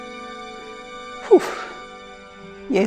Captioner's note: sigh